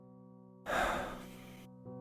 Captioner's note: sigh